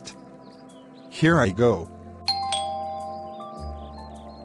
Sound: doorbell Rings

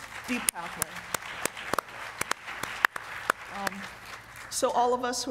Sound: applause

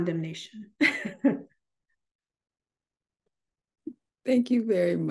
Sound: chuckles

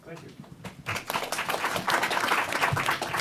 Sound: applause

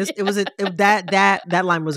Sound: laughter

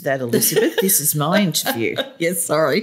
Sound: laughter

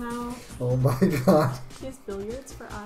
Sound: laughs

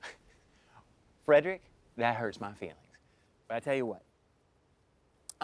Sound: laughs

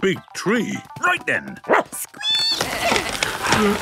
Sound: barking, squeaking, bleating; all groaning and panting

